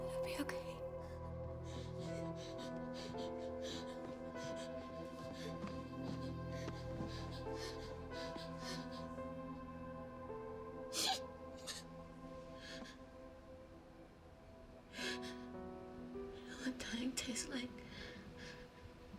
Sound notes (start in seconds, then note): 1.6 gasping; 2.3 Izzie panting; 10.9 Izzie sobbing